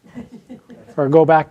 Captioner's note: audience laughing